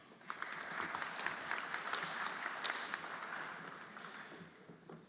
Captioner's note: everyone applauding